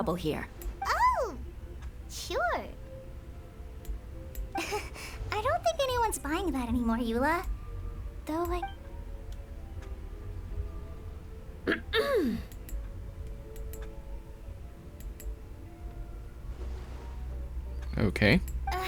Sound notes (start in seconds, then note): 6.2 coughs; 11.6 clears throat; 11.6 coughs